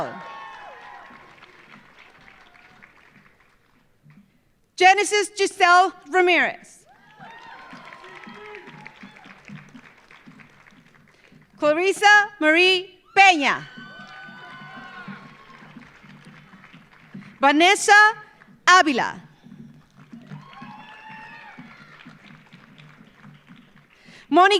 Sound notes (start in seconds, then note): 0.0 audience cheering; 0.0 audience applauding; 6.8 audience cheering; 6.8 audience applauding; 13.3 audience cheering; 13.6 audience applauding; 19.7 audience applauding; 20.1 audience cheering